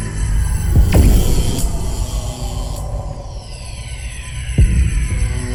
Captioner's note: electricity buzzing